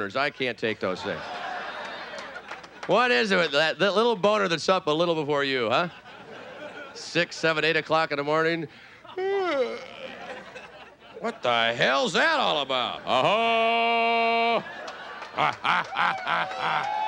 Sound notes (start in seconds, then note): 1.0 audience laughing; 9.1 yawning; 12.9 triumphant yelling; 15.0 audience laughing; 16.1 playful grunting